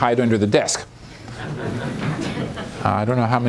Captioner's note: laughter